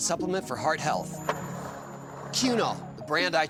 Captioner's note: skateboard wheels roaring